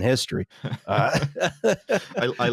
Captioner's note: laughter